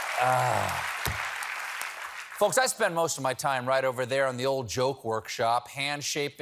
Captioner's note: cheers and applause